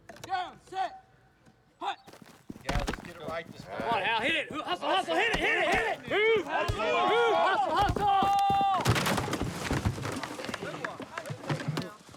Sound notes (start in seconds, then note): 5.4 shouting; 6.8 crashing